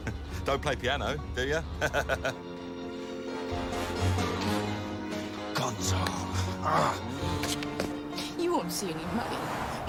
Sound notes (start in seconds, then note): 1.8 laughs; 6.5 growls